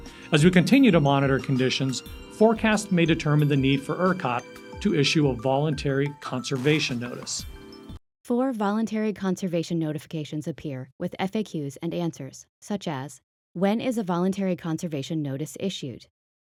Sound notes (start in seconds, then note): 8.1 voiceover